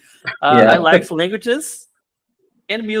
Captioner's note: laughs